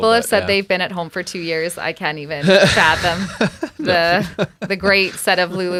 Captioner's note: laughing